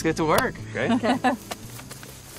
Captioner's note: laughter